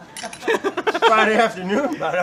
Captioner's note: laughing